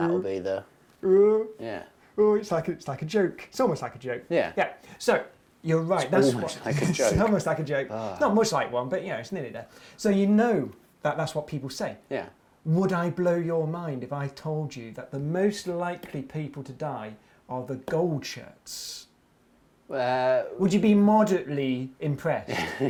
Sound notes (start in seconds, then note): 6.1 chuckles; 6.1 chuckling